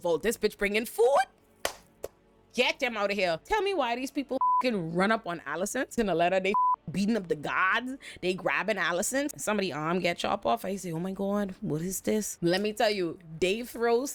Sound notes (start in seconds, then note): 1.6 claps; 4.4 beep; 6.5 beep